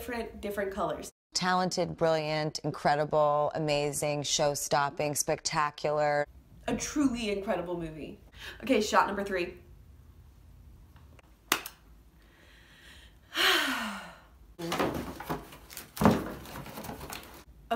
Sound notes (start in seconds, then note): 11.6 claps.... sighs; 14.7 rustles around in some boxes